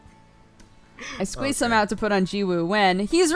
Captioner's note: cry